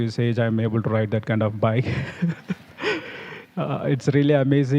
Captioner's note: laughs